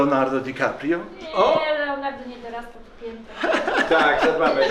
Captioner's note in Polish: śmiech